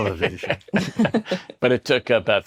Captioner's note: chuckle